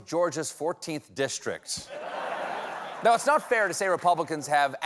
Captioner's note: laughter